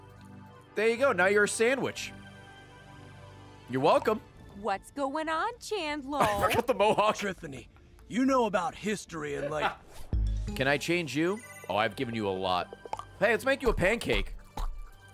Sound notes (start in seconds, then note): 6.2 laughs